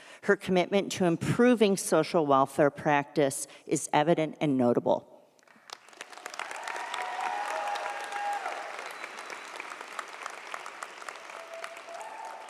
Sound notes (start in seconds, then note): 5.4 audience applauds; 6.0 audience cheers